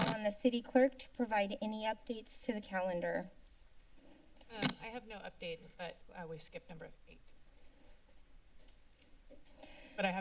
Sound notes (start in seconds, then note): 4.5 pause; 7.4 silence